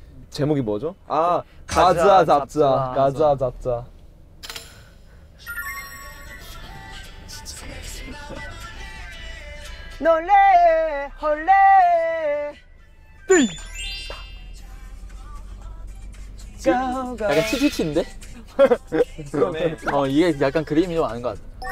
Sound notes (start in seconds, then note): 4.9 silence